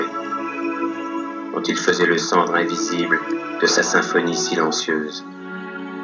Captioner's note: voiceover of man speaking in french